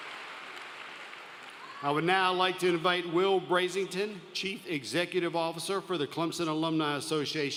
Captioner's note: applause